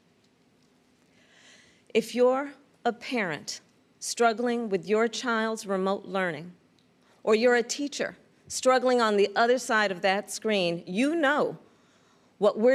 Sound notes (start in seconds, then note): none